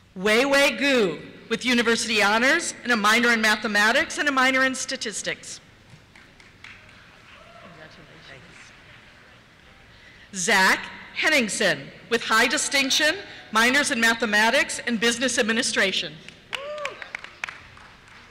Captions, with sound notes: Weiwei Gu, with University Honors, a minor in Mathematics, and a minor in Statistics. (cheers) Congratulations. Thank you. Zach Henningsen, with High Distinction, minors in Mathematics and Business Administration. (cheers)